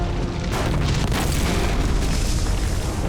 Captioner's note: thud sound